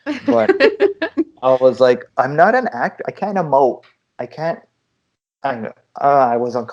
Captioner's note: laughter